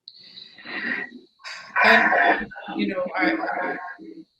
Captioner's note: static, echo sounds